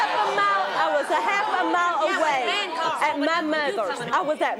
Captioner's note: audience outrage